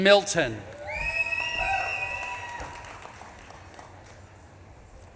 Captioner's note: audience claps and cheers